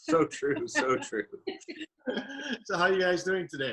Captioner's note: chuckles